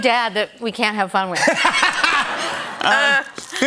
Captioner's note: laughter